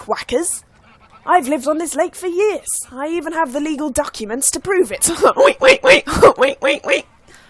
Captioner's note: uproarious duck laughter